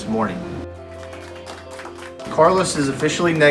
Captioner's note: crowd cheers